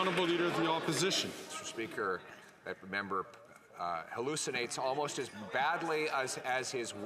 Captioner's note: some Applause